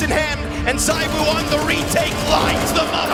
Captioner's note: gun firing